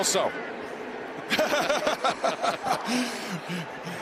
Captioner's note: both laughing